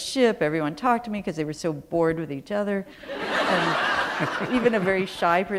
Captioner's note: laughter